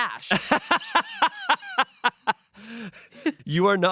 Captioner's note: Shayne laughs